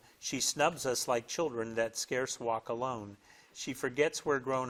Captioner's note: none